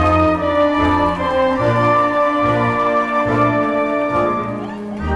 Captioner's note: crowd cheering